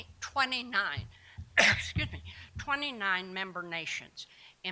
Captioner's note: cough